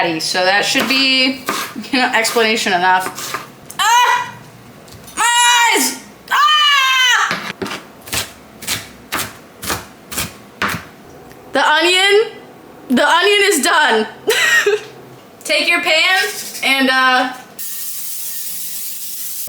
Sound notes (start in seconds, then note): 6.4 screams in pain